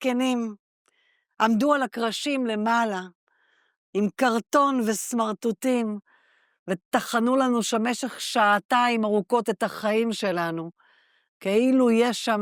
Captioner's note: speaking Hebrew